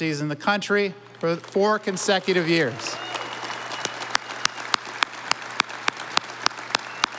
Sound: audience applauding

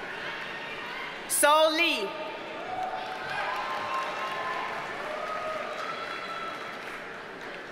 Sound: audience cheers and applauds

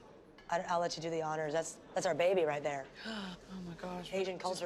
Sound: gasps

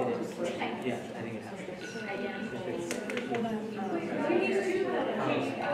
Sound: alarm ringing

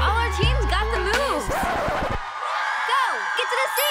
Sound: record scratch

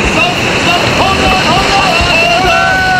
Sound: A sudden rush of waves

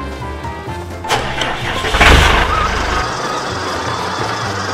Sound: engine revs

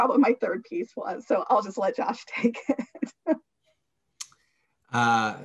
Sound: laughs

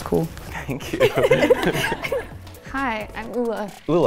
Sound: laughing

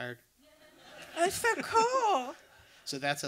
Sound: audience laughter

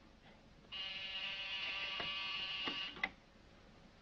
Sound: phone rings

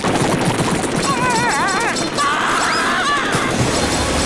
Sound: screaming

